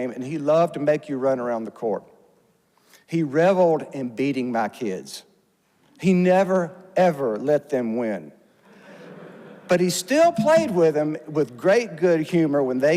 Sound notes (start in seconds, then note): 8.6 audience laughs